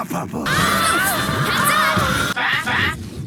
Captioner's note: cvmshot noises